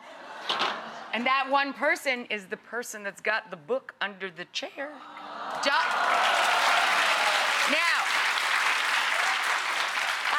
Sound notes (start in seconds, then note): 5.5 audience applauding